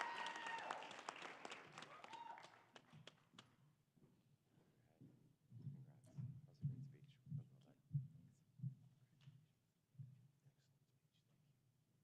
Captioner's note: applause